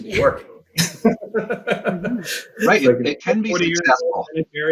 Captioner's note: laughs